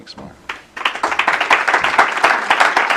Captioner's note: applause